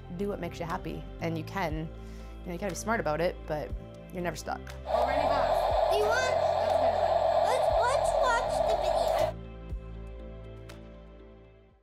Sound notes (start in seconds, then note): 4.9 background noise interrupts main speaker; 9.4 soft music